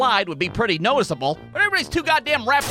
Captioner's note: none